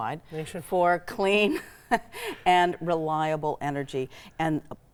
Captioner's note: chuckles